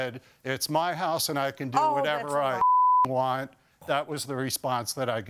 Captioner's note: beep